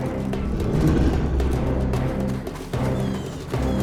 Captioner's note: Loki growls